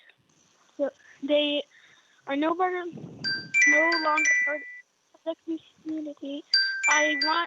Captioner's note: chime